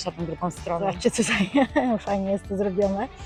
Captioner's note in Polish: śmiech